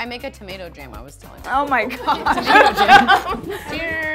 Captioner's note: laughs